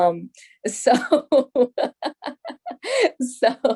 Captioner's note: laughs